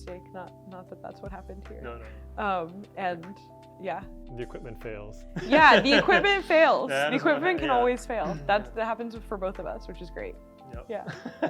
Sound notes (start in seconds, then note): 5.4 laughs